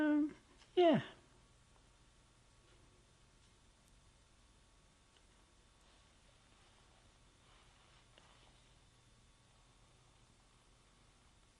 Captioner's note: pauses for 12 seconds